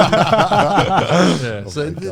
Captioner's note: all laughing